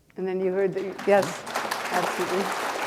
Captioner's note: applause